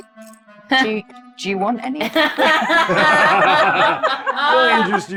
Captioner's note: group laughs